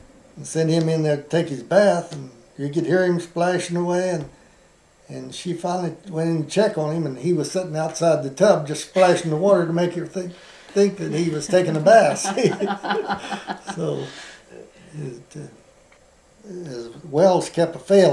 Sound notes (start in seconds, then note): 10.8 laughter